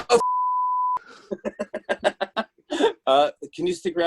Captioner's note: laughs